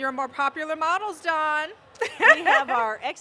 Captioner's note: laughter